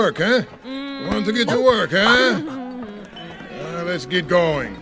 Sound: goat giggling

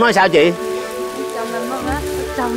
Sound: speaking ethnic language; speaking ethnic language

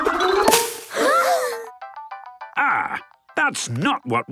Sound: all gasping

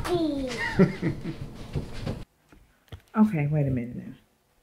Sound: laughs

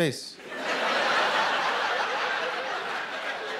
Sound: laughter

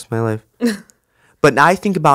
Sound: Monique laughs

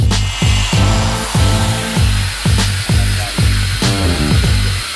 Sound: drill whirring

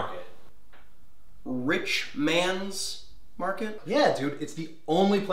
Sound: exaggerated enunciating

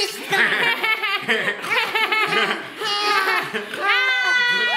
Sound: laughing

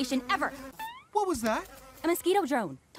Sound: buzzing

